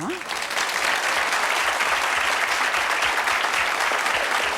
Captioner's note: audience applauds